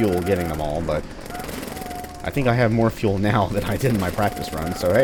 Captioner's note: chuckles